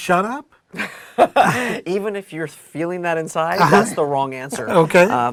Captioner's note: laugh